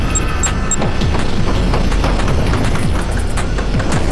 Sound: beeping

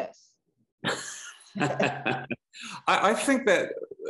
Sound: laughs

